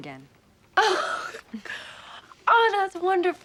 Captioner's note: laughs